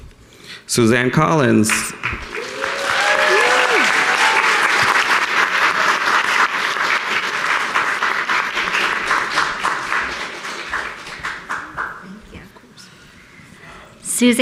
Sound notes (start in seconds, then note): 1.6 audience applauding